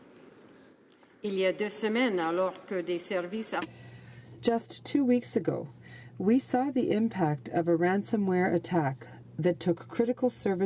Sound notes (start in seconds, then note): 6.4 speaking in french